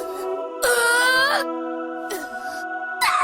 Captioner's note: pained cry; pained groan